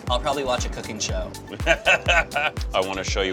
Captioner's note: laughs